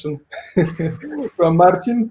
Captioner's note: laughing